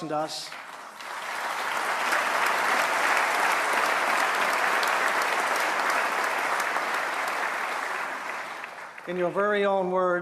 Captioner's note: applause